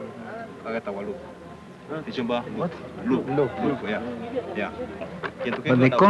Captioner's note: speaking Swahili